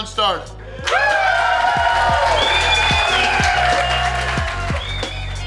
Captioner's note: audience cheering